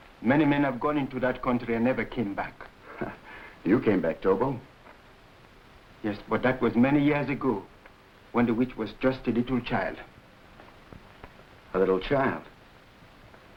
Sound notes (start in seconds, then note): 2.8 Gorman chuckling